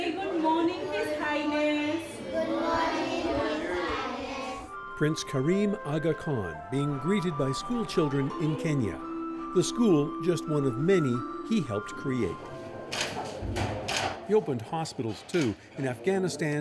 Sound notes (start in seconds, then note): 4.2 chanting